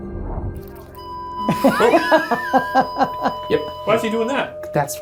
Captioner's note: EMF beeping; laughs